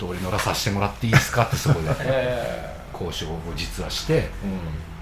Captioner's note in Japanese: 笑い